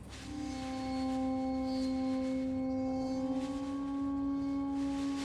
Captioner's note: plastic rattling in wind